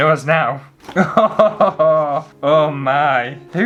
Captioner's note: laughter